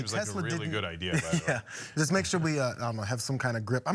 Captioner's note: laugh